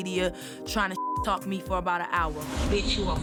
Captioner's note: beep